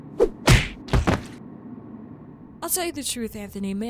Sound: rollerskate thuds

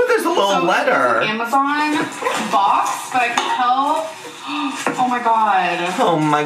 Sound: gasps

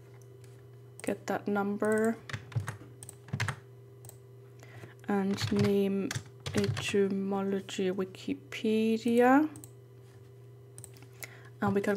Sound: typing

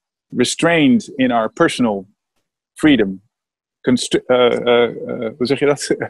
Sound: laughs

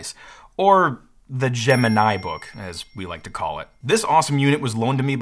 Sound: bell dings

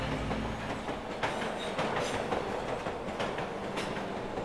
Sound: subway clacking

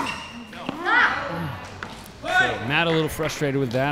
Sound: shouting

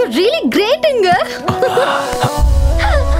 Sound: laughs

